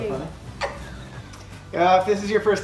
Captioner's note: giggles